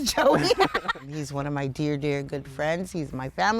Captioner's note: laugh